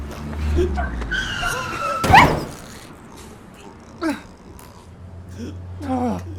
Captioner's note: car horn beeps; brakes squealing; dog yelps